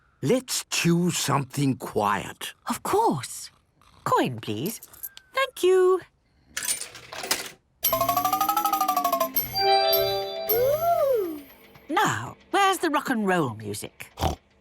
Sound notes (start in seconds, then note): 7.8 beeps and chimes